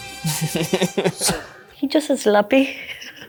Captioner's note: both laughing; laughs